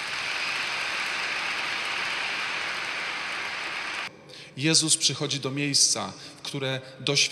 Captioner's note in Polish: Aplauz